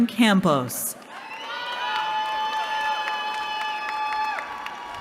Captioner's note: cheering